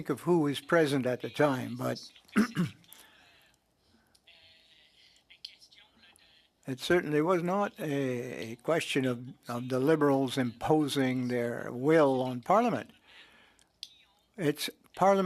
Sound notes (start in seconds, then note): 3.0 speaking French